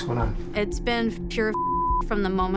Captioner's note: beep